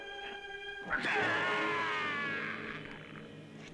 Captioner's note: groaning